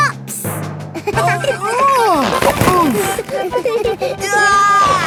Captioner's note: giggling; grunting; giggling